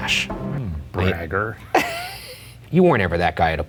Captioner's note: laughing